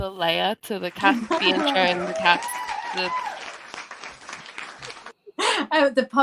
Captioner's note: applause